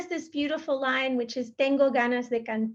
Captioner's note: speaking in Spanish